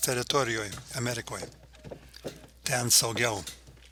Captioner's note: vežimo garsai nyksta